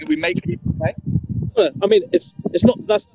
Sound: audio distorted

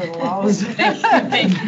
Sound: people laugh

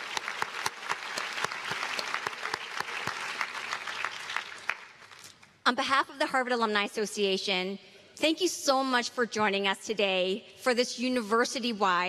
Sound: applause

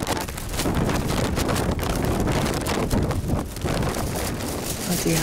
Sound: wind

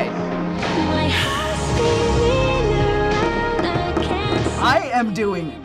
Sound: drumming table

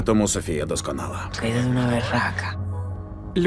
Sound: in Spanish; in English

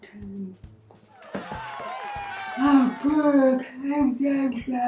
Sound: studio audience cheer

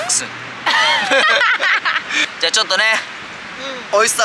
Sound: laughs

